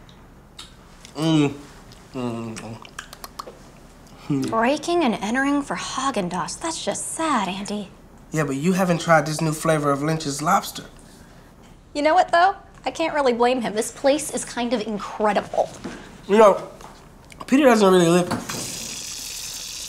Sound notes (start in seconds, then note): 2.4 smacks lips